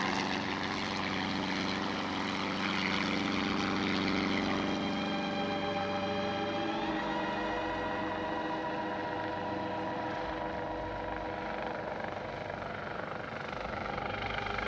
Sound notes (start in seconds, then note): none